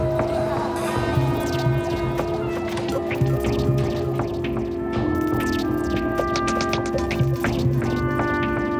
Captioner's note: vocalization calls out and recedes